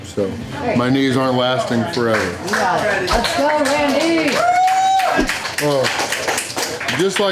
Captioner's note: crowd applause